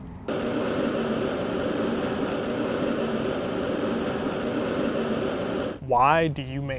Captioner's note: burner Hissing